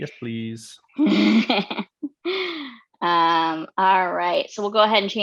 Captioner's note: laughs